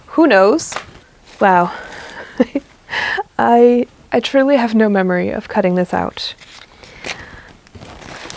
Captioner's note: laughs